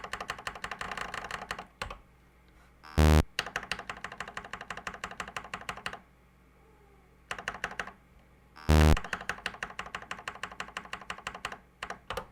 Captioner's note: typing on a C64 keyboard